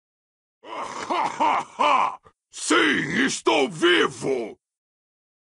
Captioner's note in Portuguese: Gargalhadas